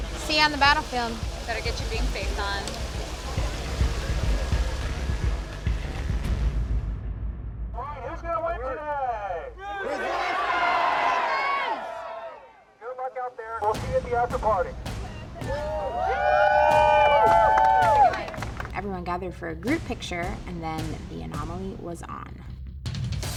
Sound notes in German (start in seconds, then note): 4.3 dramatische elektronische Musik; 14.9 Menge jubelt und applaudiert